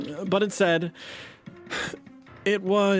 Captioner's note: sighs